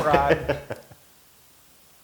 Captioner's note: laugh